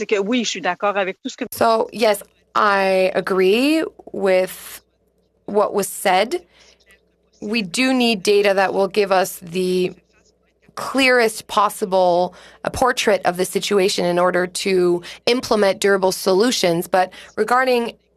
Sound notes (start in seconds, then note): 4.0 speaking French